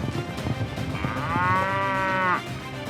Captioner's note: mooing